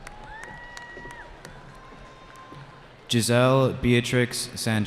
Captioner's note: cheering